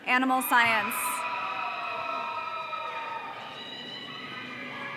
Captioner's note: audience cheering